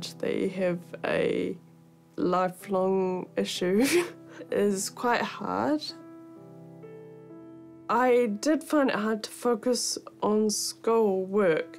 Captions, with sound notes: that you have a... lifelong issue (CHUCKLES) is quite hard. I did find it hard to focus on school work.